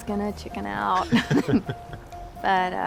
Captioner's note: chuckling